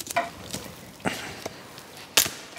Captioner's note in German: Knacken, Stöhnen